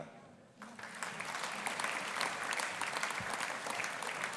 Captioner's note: audience applauding